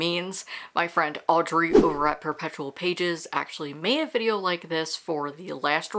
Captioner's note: whoosh